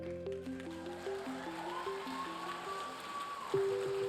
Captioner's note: audience cheering and applauding; gentle bright music